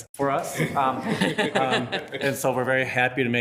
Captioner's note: attendees laughing